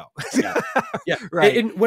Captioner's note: laughs